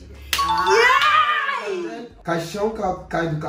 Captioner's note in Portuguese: Grito